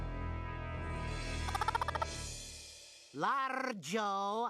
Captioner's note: clucking